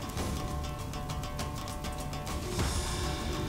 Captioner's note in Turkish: Alev sesi